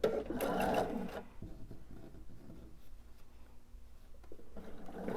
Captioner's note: sewing machine whirring